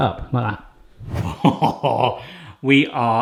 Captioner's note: air whooshing; laughing